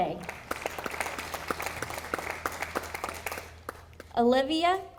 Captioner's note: audience applauding